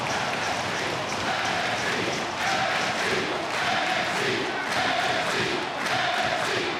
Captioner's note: crowd chanting; crowd rhythmically clapping